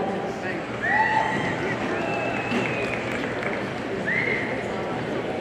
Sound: audience cheers

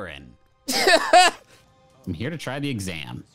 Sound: laughs

